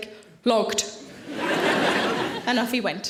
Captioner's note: audience laughing